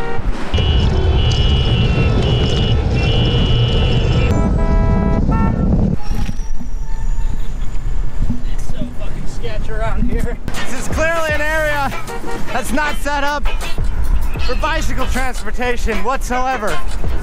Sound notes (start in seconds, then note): 0.0 multiple car horns; 4.1 car horn; 5.8 bike brakes squeaking